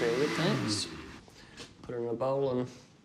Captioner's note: blender stops whirring